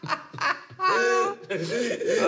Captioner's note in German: Lachen